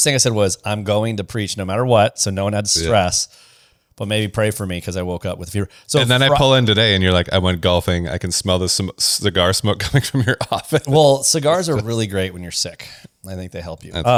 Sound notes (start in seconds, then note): 9.8 laughs